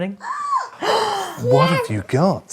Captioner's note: gasps; exclaims